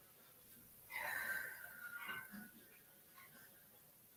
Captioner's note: exhales